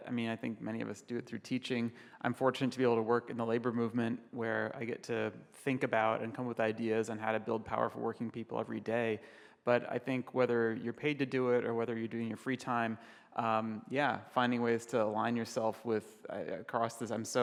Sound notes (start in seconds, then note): none